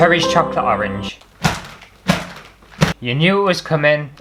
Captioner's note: slap! slap! slap!